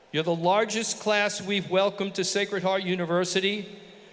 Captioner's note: none